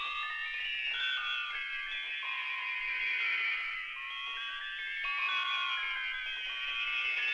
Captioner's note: none